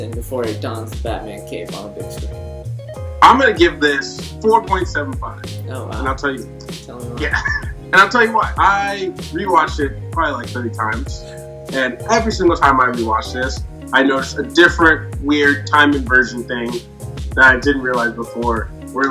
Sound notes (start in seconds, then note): 7.1 laughing